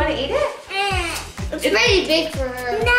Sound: whine

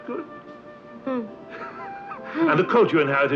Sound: both chuckling

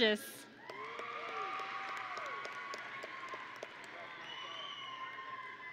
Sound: audience and graduates cheering

